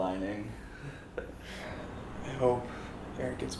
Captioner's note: giggles